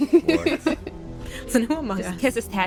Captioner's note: laughter